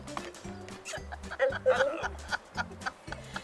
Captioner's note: laughing